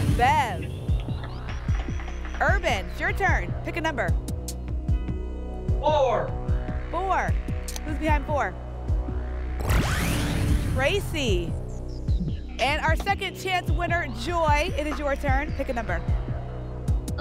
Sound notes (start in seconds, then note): 1.1 applause